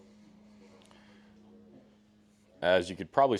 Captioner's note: silence